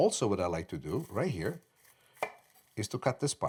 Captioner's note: slicing